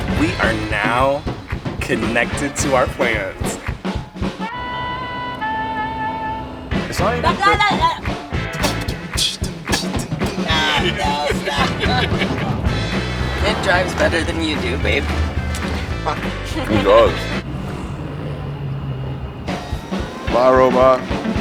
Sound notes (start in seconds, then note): 4.8 jazzy music; 5.7 punchy music; 8.8 passenger beatboxing; 12.9 laughs; 16.1 chuckling